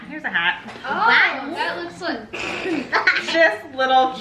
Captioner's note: laughs